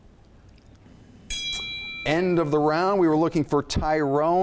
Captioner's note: bell dings